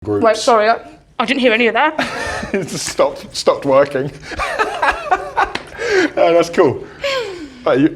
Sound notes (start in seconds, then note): 4.0 laughs